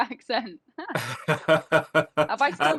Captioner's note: both laughing